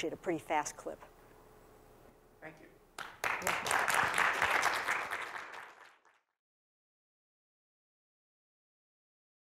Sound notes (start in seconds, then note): 3.0 applause